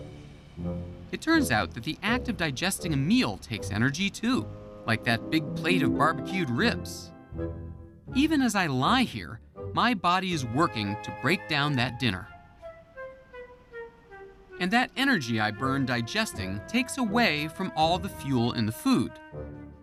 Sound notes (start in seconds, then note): none